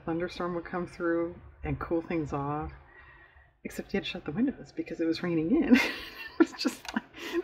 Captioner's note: laughs